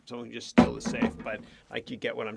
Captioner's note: metal clanging overlaps dialogue